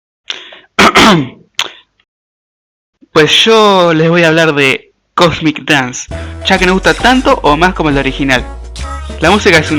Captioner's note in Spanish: Ejem